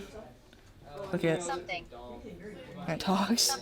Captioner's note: phone Voice